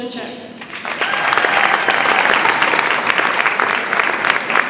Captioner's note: audience applauds